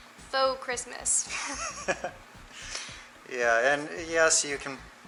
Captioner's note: laughter